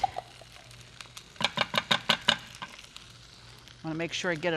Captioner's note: dish clatters